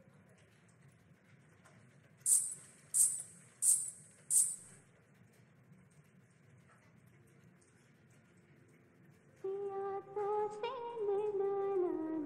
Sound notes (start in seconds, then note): 2.2 jingling sound of anklets